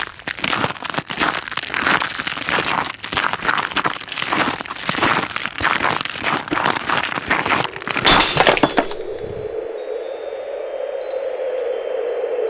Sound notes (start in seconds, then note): 2.6 audio: Frost & Ice on Glass; 10.4 audio: Breaking Glass